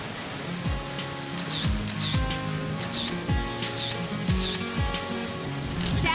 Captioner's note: bright acoustic music; camera snaps